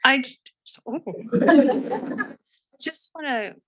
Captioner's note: audience laughs